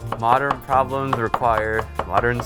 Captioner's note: chopping onions